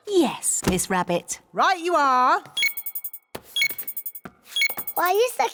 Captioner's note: beeping